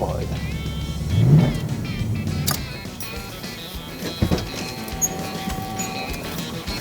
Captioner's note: engine roars; upbeat music